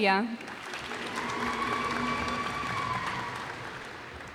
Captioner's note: cheers and applause